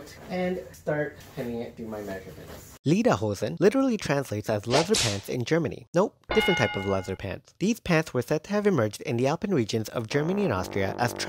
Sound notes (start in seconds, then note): 4.7 whip sound; 6.3 ding sound; 10.2 horn sound